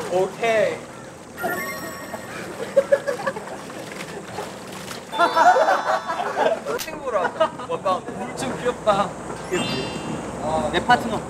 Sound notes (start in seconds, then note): 5.2 laughing from the gut as a thanks